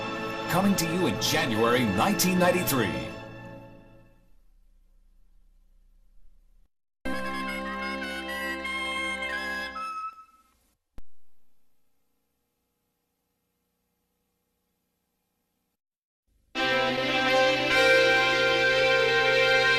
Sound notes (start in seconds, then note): 4.3 VHS static; 7.1 music ends in a music snippet; 11.1 VHS static; 16.6 analog synthesizer music plays